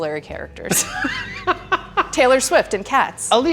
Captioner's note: both laugh